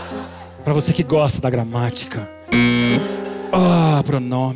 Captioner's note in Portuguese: campainha